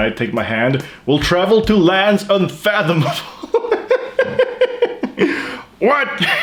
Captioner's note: laughs